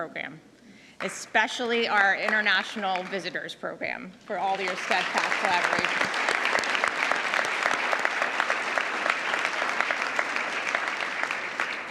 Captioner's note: applause